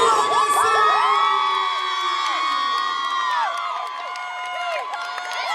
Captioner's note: audience clapping and cheering